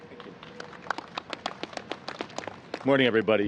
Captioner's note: applause